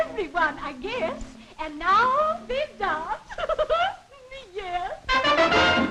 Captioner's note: giggles